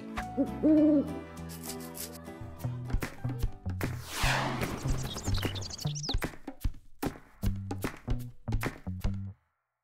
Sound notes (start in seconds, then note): 0.3 owl hooting; 2.6 upbeat music; 3.9 rocket swooshing; 4.6 birds chirping